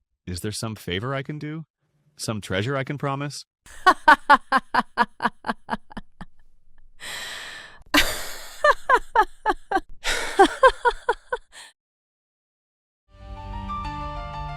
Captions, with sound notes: Is there some favor I can do? Some treasure I can promise? [laughs]